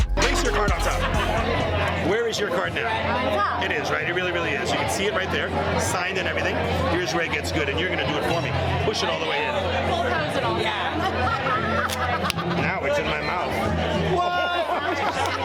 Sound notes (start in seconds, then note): 11.8 cards snap; 14.7 laughs; 15.2 woman claps; 15.2 woman laughs